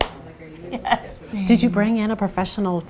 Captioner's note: laughs